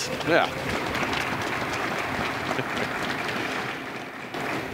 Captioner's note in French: Applaudissements